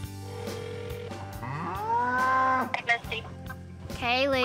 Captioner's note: phone dialing, ringing